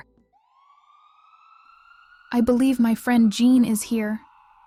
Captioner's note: ambulance siren